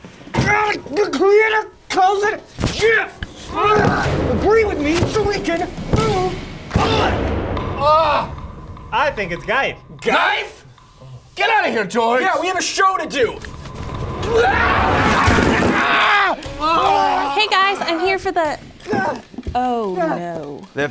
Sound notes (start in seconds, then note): 12.8 yelling, crashing